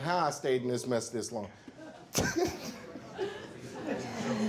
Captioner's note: laughs